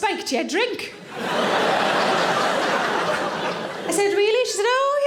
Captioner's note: audience laughing